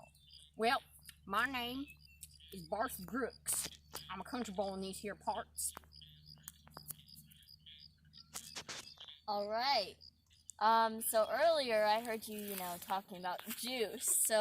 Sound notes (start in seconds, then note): 7.0 awkward silence